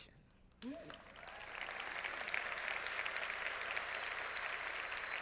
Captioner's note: crowd clapping